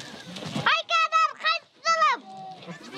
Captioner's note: child shouts; goat squeals